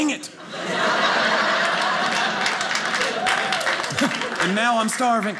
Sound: audience cheering

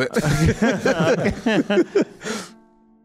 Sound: laughs

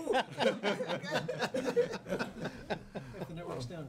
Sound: laughing

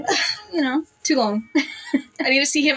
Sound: laugh

